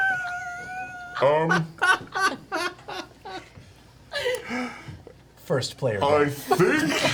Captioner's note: all laugh